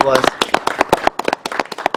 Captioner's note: clapping